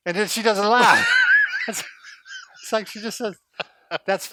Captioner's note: laughs